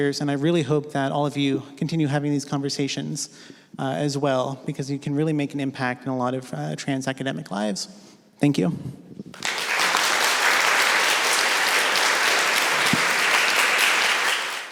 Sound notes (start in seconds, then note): 9.3 applause